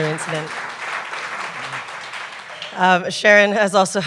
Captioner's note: applause